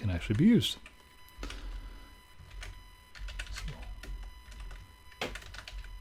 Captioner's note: keyboard clattering